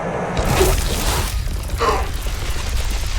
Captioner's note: electric sound